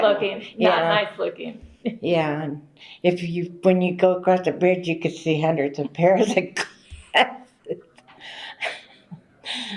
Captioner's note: laughter